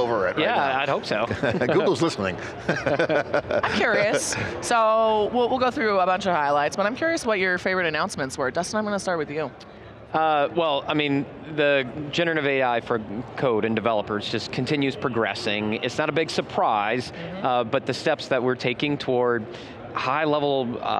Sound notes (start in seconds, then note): 1.2 everyone laughing